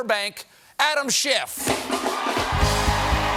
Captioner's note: cheers and applause; applause